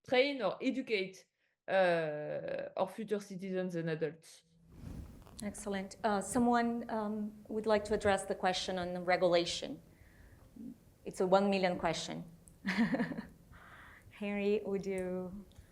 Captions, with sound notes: train or educate our future citizens and adults. - Excellent. Someone would like to address the question on the regulation. It's a one million question. (chuckles) Henry, would you?